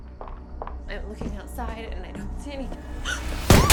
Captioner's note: gasps; glass shattering; gun fires